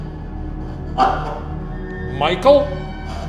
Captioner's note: Honeytone buzzing